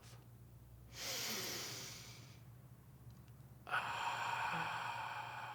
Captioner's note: inhales and exhales